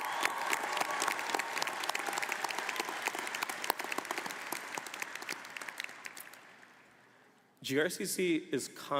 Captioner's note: applause